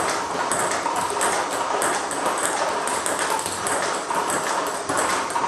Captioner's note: ball ping pong hitting continues